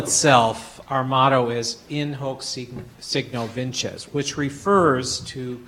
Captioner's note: speaking foreign language